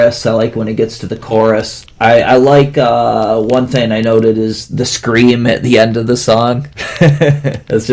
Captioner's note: laughs